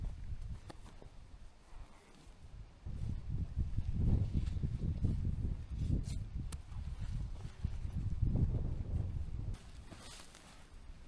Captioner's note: wind blowing